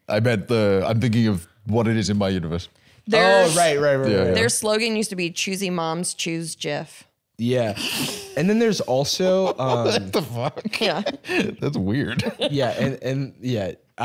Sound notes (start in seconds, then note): 7.6 laughing